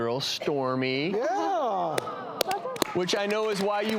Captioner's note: audience applauds